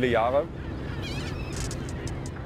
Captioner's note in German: Möwenrufe